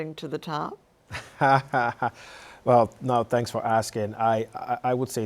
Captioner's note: laughs